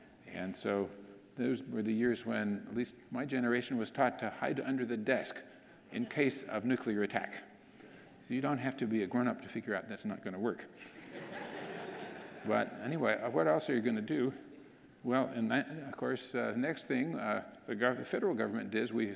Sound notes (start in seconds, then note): 10.8 audience laughing